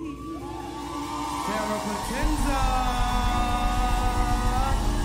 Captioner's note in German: Beifall